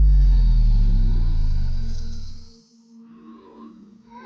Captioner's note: electricity powering down; clone snarling